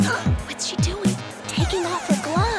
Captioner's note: gasp